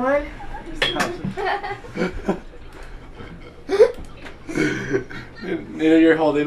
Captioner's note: laughing